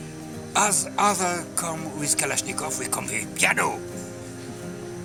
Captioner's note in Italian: Inglese